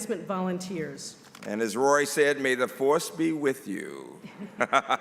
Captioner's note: laughter